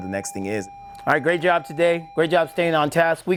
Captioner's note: bell ringing